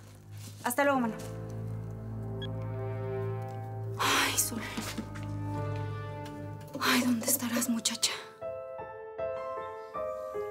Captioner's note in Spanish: Bip